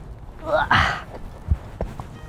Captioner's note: struggles